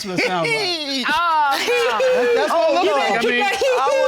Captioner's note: laughs